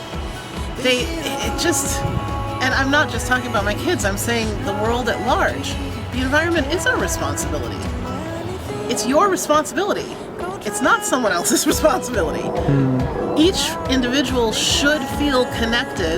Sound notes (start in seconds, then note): 12.2 laughter